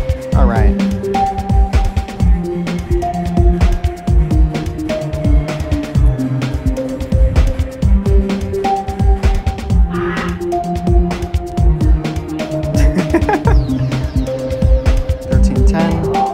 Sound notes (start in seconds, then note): 12.7 chuckles